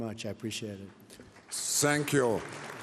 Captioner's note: applause